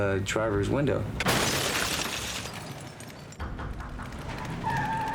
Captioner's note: crashing